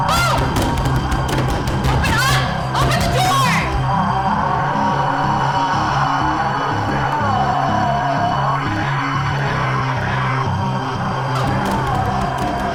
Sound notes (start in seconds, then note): 0.1 thuds on door; 4.3 Chemock roars; 4.3 metal music continues